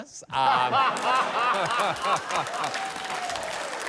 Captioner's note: laughter, cheering